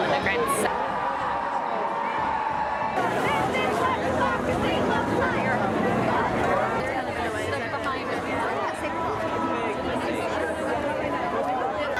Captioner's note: crowd noise and chants